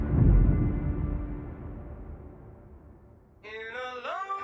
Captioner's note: thunder booming